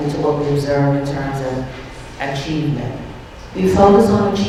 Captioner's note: none